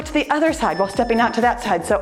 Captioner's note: timer beeps